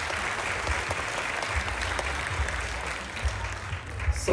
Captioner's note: applause